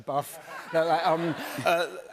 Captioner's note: laughter